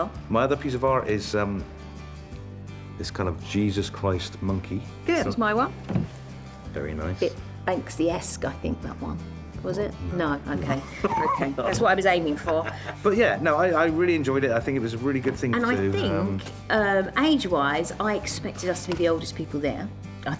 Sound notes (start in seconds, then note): 11.0 laughing